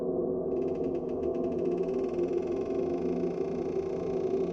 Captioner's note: door creaking